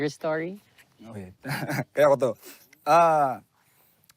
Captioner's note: chuckles